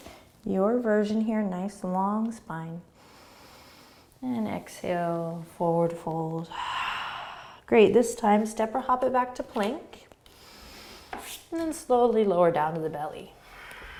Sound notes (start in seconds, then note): 6.5 exhaling